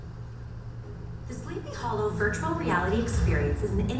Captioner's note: voiceover